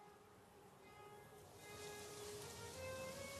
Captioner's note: leaves rustling; wind blowing